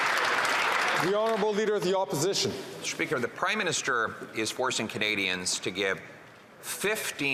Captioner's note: some Applause